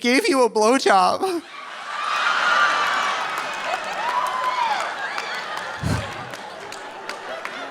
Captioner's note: audience laughing; audience cheering